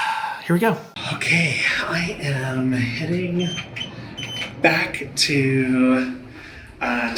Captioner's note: sighing; elevator beeping